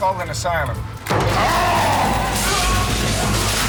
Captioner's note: yells; screams